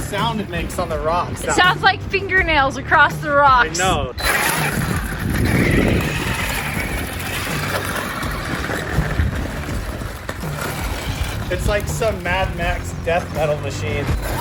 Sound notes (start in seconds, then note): 4.2 RC car clattering